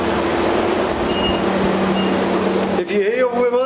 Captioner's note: device beeping